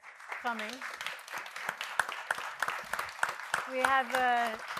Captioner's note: audience applauding